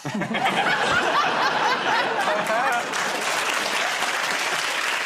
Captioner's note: laughter